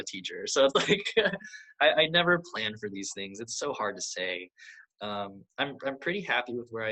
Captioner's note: laughs